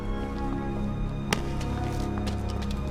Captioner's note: smack